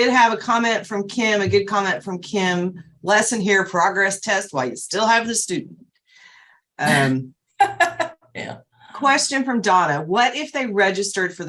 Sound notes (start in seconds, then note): 7.6 laughs